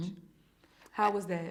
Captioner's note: hums in acknowledgement